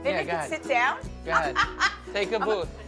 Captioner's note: laughs